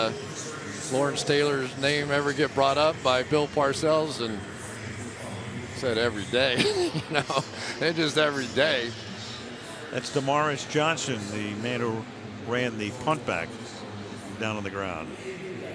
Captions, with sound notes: did Lawrence Taylor's name ever get brought up by Bill Parcells? And he said, every day. [laughs] It's just every day. That's Damaris Johnson, the man who ran the punt back down on the ground.